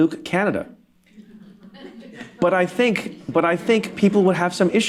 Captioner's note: laughter